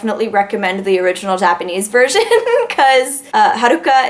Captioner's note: giggles